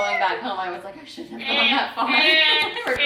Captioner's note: laughing